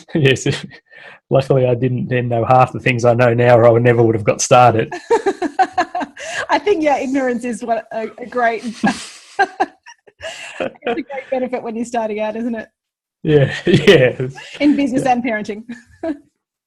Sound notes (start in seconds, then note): 4.8 laughs